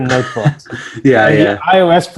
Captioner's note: chuckles